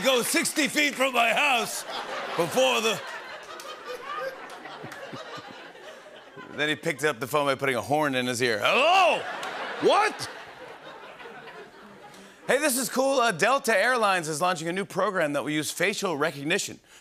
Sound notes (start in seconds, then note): 3.0 laughter and applause; 8.9 laughter